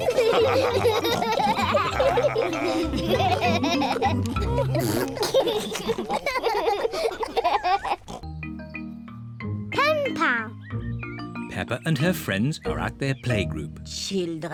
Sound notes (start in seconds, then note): 0.0 all laughing; 4.2 blows raspberry